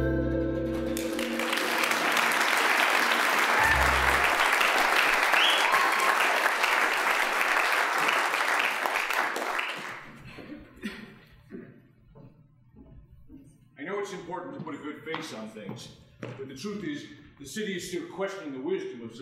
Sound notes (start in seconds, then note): 0.8 applause, cheering